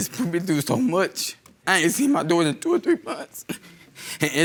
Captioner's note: sobbing